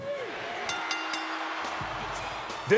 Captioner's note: bell dings; audience cheers